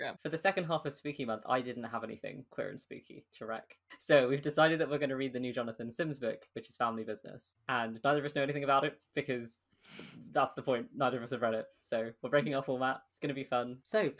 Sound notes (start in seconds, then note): none